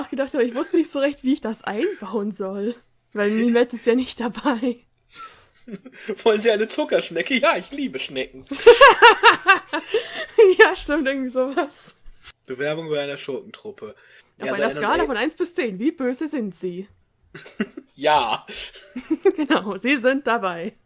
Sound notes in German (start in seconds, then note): 8.4 Lachen